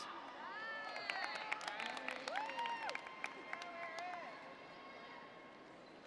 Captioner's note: applause